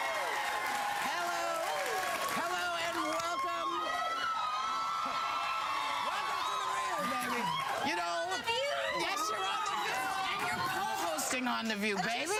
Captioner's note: cheers and applause